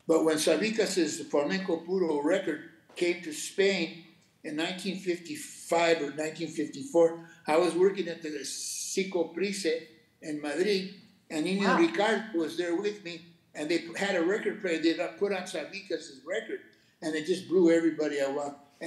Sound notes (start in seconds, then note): 1.4 speaking Spanish; 8.3 speaking Spanish